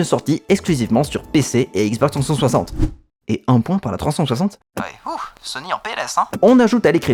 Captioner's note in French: whoosh